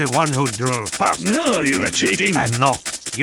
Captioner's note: stabbing noises